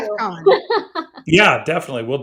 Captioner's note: laughs